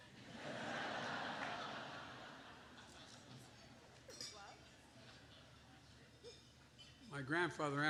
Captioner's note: laughter